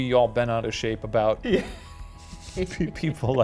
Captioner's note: laughing